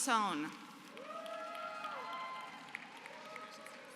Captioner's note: applause